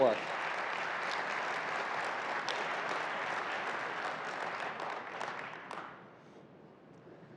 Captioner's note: applause